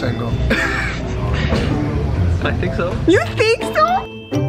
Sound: laughs

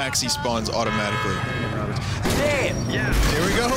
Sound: horns honking, pedestrians yelling; pedestrian yelling

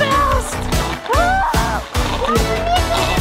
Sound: yells

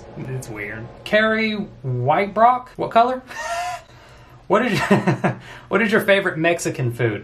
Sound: laughs

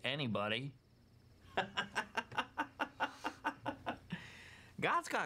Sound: laughing

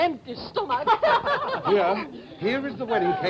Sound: laughter

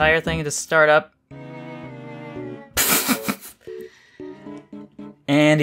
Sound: tries to contain laughter

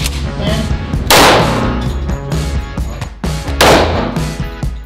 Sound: gun firing; gun firing

